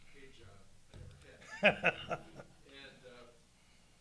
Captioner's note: chuckling